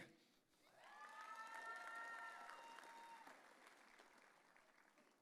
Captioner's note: audience cheering